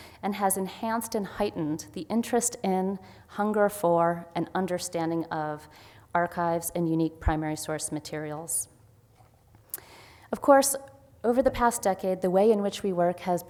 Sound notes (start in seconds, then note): none